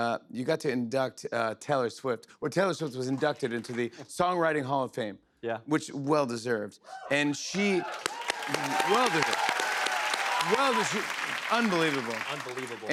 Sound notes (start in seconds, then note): 7.4 cheers and applause